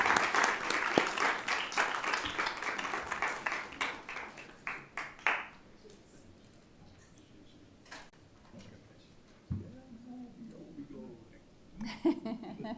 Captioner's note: applause